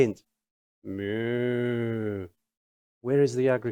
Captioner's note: imitating cow